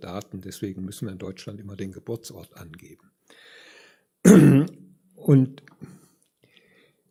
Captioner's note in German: räuspern; husten